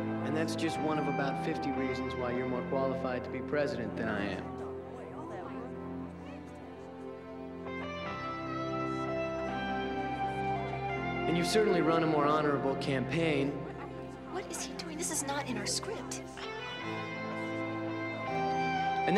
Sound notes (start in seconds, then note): 0.0 crowd murmuring; 4.3 crowd murmuring; 7.9 sentimental music; 16.4 sentimental music